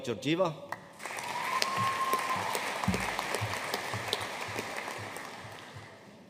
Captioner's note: audience cheering and applauding